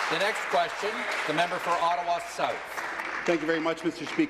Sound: applause

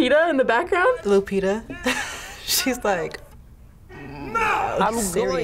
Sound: laughs

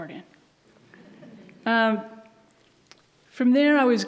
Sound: audience laughs

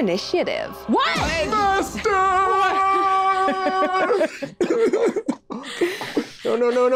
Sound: Jasmine laughs, Carlos cries

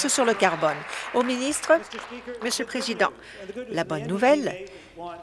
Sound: applause

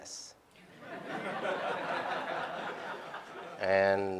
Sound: laughter

